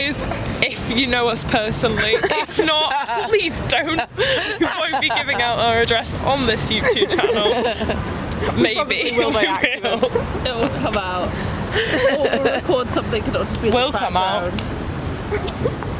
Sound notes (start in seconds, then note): 4.1 laugh; 9.0 laughs